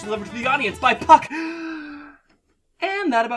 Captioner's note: gasps for air